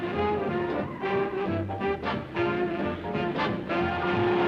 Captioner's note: tires squealing